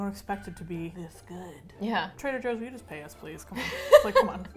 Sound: laughs

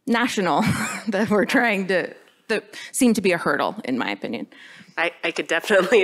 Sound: laughter; laughter

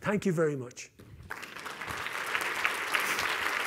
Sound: applause

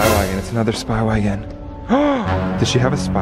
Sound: gasps

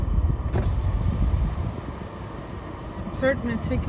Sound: sound of car window lowering

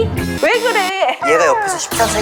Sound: frustrated

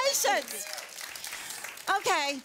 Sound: audience applause

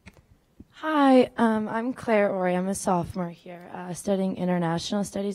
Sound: voiceover

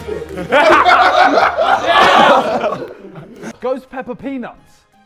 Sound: Sidemen laughing

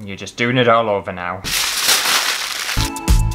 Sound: tin Foil Crumpling

